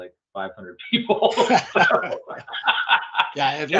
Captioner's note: laughing